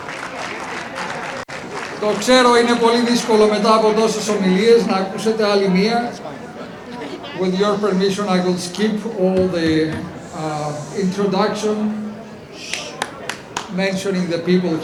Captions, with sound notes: (audience applauding) (speaking in foreign language) I know after so many speeches to listen to another one With your permission, I will skip all the introduction, mentioning the people